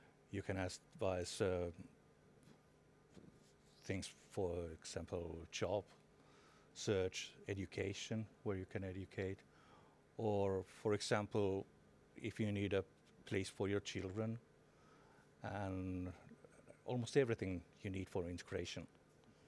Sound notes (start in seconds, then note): none